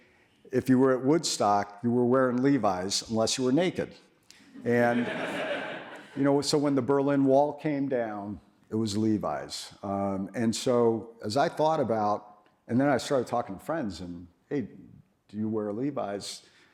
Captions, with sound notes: but we liked to say, if you were at Woodstock, you were wearing Levi's unless you were naked. (audience laughs) And, you know, so when the Berlin Wall came down, it was Levi's. And so, as I thought about, and then I started talking to friends, and say "hey, do you wear Levi's?"